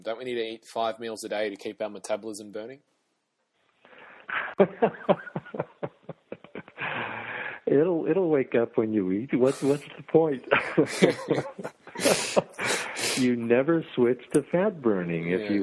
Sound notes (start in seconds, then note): 4.2 laughs; 10.4 laughs